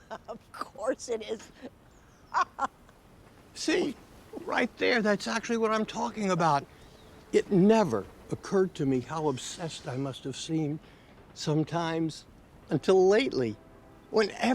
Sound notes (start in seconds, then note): 2.3 Miriam laughing; 2.3 chuckling